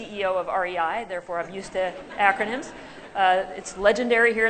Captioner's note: laughter